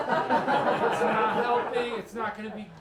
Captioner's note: laughter